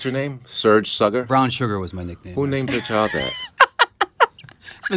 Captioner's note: laughter